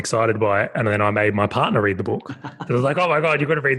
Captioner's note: laughing